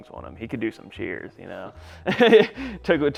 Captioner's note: laughs